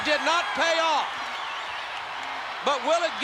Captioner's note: spectators cheering